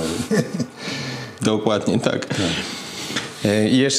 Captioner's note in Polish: śmiech